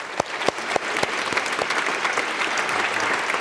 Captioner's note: applause